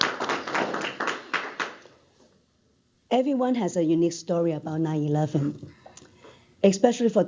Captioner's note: applause